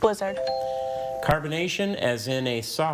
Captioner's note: text chiming